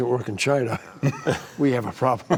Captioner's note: laughter